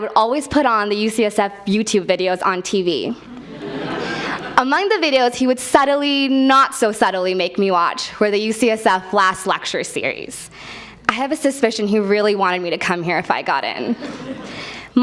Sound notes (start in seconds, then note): 3.4 laugh